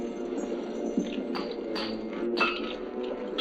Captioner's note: metal clanging